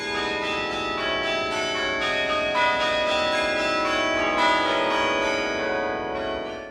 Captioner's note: sound of bells